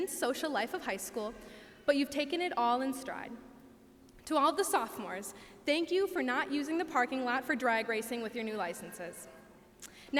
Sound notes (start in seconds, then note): none